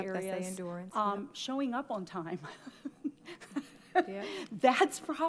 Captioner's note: laughs